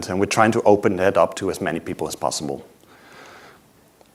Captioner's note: none